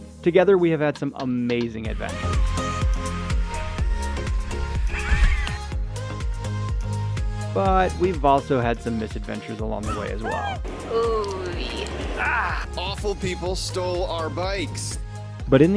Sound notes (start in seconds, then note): 0.9 upbeat music; 12.0 groaning